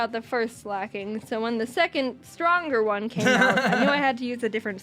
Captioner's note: laughs